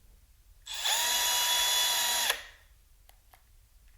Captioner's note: power tool noises